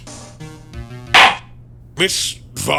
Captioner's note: gavel slams!